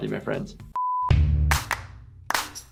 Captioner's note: beep; upbeat music playing